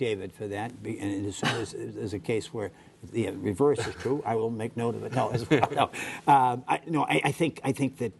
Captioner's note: laughter